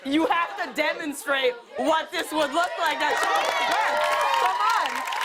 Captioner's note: cheers and applause